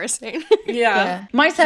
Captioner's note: laughing